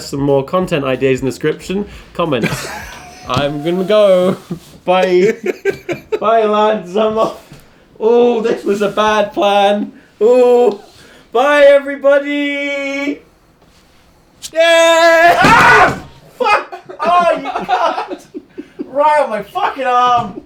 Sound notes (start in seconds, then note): 2.2 laughing; 15.2 chair crashing; 16.3 laughing